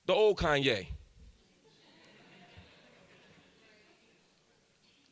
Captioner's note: audience laughs